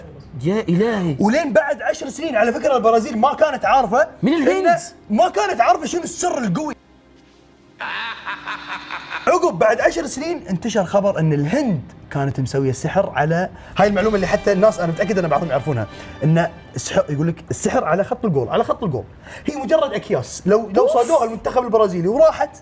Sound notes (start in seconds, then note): 7.8 evil laughter